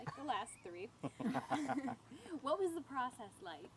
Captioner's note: laughing